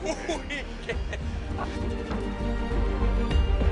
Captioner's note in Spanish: Risas